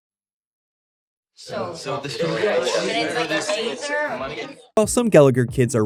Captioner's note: chatter